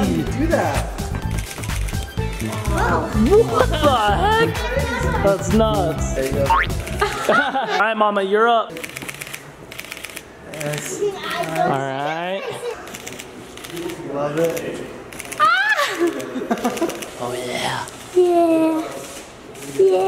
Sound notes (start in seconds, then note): 9.7 camera shuttering